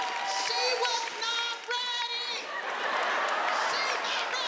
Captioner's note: audience laughing